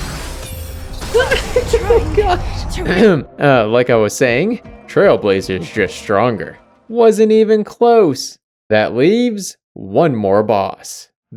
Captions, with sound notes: [Screams and laughs] Oh gosh! Ahem! Uh, like I was saying... Trailblazer's just stronger. Wasn't even close! That leaves one more boss...